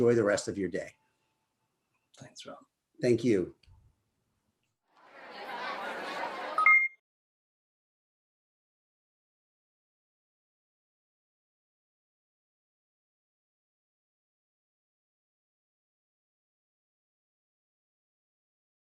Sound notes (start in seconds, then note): 5.0 crowd chattering; 6.6 electronic beeping